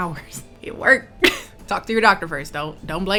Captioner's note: laughs